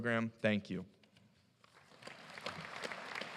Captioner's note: applause